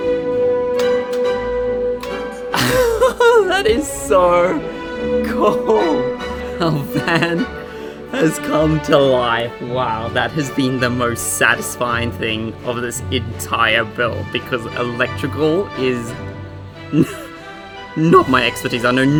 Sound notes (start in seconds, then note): 0.7 light switch clicking; 2.4 laughing; 16.8 laughs